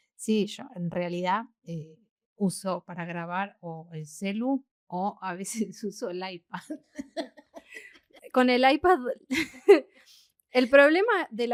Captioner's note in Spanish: risas